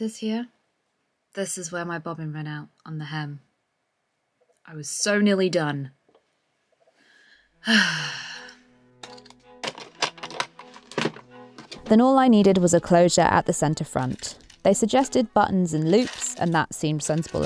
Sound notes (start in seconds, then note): 7.1 box locks click; 7.6 sighs; 8.1 waltz music starts